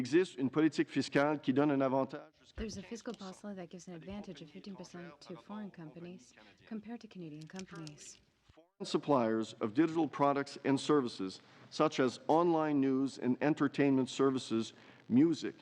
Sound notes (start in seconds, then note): 4.9 speaking French